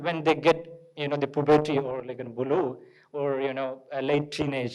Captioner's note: speaks in foreign language